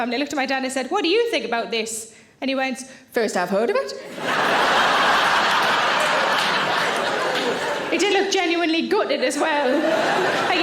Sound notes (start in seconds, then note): 4.1 audience laughing